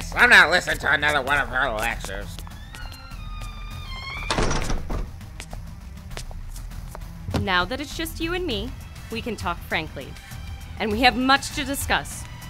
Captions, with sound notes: I'm not listening to another one of her lectures. *door creaking* *door shuts* Now that is just you and me, we can talk frankly. and we have much to discuss,